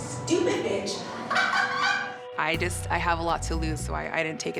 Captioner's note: laughs